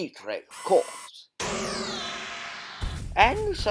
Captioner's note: death Ray Noise